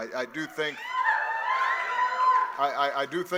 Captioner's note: audience cheering